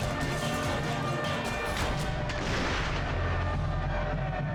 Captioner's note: prisoners shout; siren wails; gun bangs